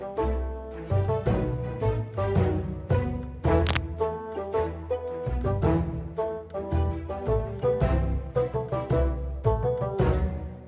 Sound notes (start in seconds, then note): 3.6 crack